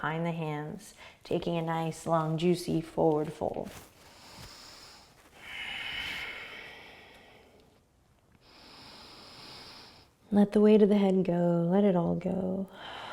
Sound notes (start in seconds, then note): 3.9 breathing; 12.7 exhaling and inhaling